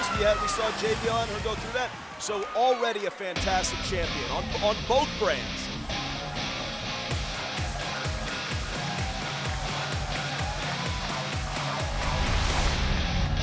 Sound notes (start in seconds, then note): 5.6 upbeat rock music; 8.8 crowd cheering